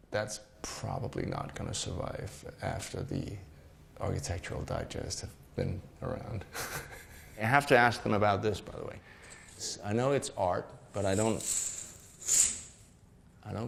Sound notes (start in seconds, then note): 6.7 laughs